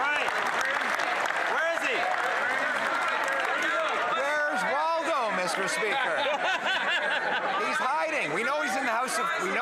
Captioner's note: some Applause